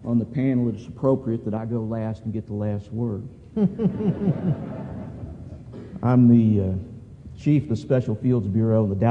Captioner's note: laughter